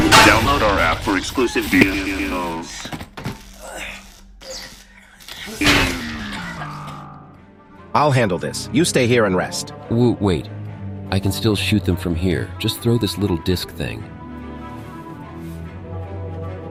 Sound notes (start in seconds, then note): 2.4 struggled breathing